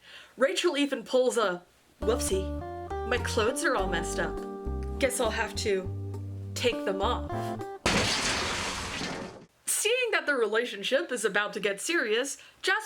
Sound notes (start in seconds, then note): 4.3 sexy music; 7.8 glass shatters